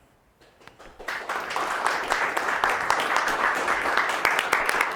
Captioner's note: audience applauding